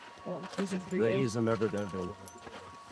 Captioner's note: indistinct chatter